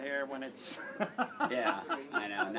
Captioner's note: laugh